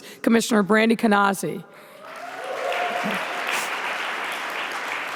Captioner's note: audience applauding